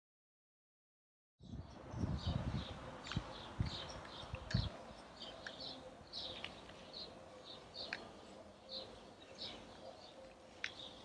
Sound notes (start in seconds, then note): 1.9 birds chirping